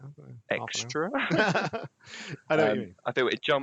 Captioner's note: laughter